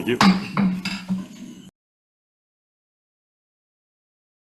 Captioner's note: gavel pounds